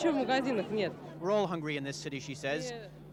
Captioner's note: speaking in Russian